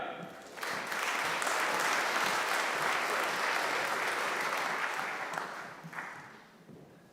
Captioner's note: applause